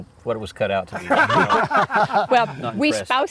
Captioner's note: laughter